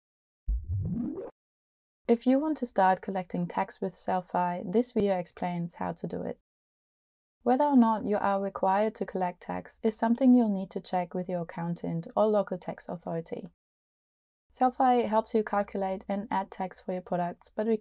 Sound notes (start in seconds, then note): 0.5 logo whooshing